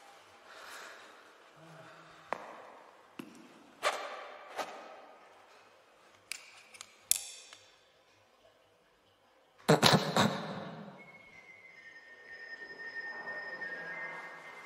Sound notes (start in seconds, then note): 9.4 snorts loudly; 12.1 trinket melody